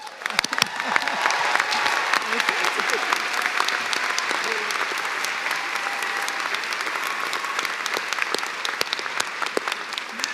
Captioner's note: cheers and applause